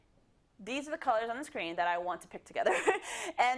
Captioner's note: laugh